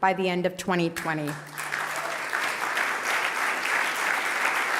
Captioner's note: applause